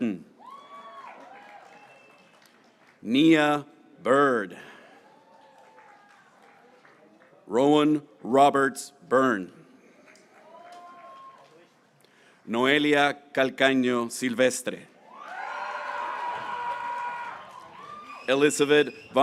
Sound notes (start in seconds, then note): 0.3 graduates cheering; 4.8 graduates cheering; 10.3 graduates cheering; 15.0 graduates cheering